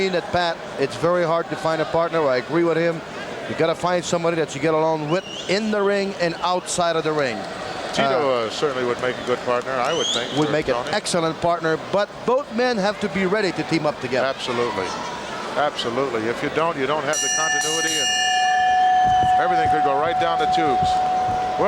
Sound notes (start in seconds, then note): 17.1 bell rings